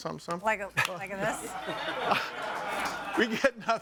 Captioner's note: audience applauding